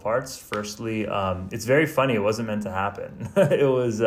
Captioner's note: laughs